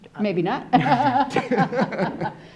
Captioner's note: laughing